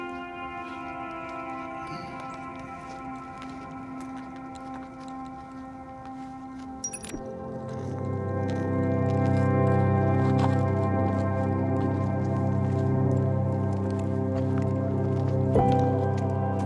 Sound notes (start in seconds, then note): 6.9 audio skips; 8.6 somber music